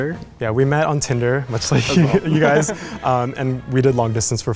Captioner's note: laughing